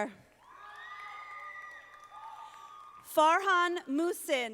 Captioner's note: audience applauding